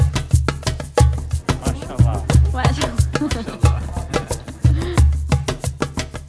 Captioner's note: laughs